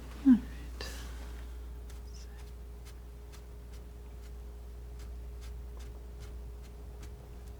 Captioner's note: scratching